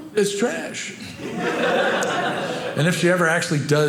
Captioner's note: audience laughing